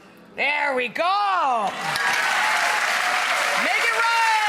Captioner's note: audience applauds